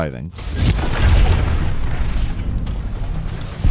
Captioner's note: gun firing